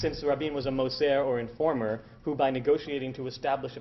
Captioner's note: Hebrew